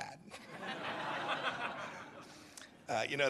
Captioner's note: laughter